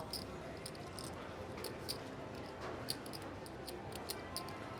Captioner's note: soft clacking